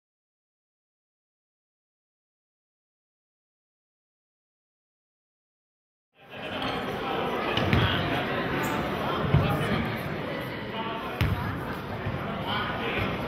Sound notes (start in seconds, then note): 9.3 chattering